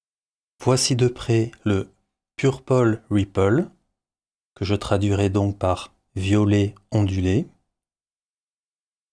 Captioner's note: french